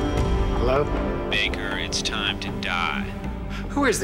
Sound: on phone

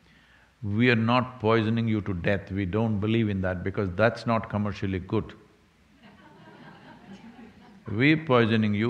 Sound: few laugh

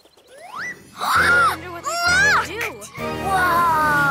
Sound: gasps

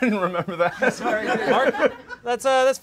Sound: laughing

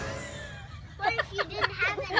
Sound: laughing

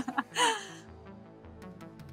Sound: <Laugh>; retro synthesizer music plays

